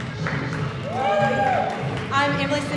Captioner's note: audience cheering